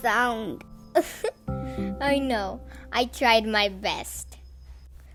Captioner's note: laughed